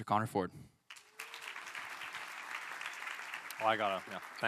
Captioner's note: applause